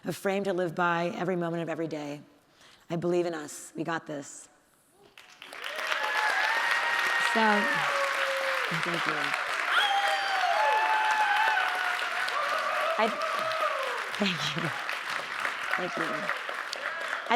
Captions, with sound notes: a frame to live by every moment of every day. I believe in us. We got this. (audience cheering) (audience applauding) So, thank you. (audience cheering) (audience applauding) Thank you. Thank you.